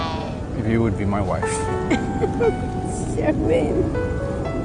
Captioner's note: laughing